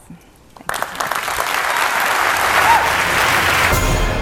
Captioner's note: applause